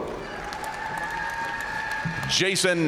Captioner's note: audience cheering and applauding